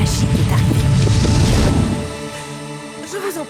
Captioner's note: whooshing